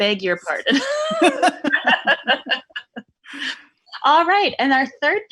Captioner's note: both laughing